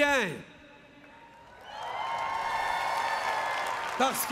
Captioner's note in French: Applaudissements